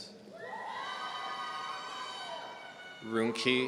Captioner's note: audience cheering